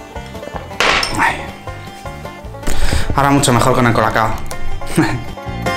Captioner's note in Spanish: golpe